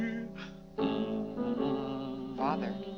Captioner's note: Mr. Day hums